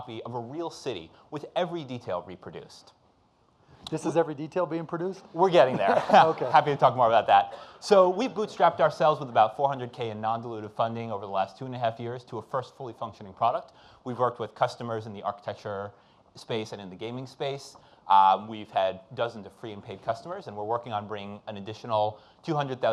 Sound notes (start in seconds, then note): 5.6 audience laughing